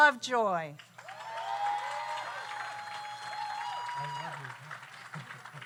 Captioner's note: audience applauds; audience cheers